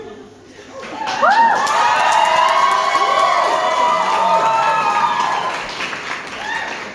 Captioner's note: upon realising his T-shirt says "TRANS RIGHTS", audience applaud and cheer